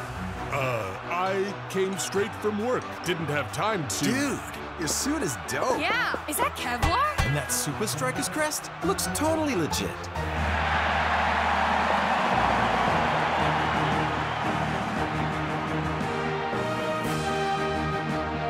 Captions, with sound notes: - Uh, I came straight from work. Didn't have time to-- - Dude, your suit is dope. - Yeah. Is that Kevlar? - And that Supa Strikas crest? It looks totally legit. (crowd cheering) (triumphant music)